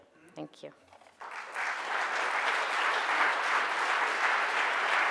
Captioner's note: audience applause